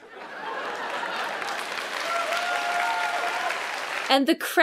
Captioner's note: audience cheering